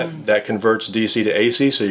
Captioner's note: none